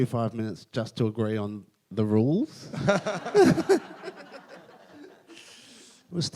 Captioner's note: everyone laughs